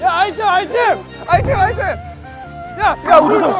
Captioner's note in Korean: 우르르